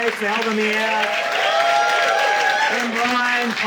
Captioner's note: audience cheering